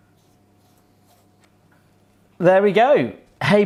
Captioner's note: brushing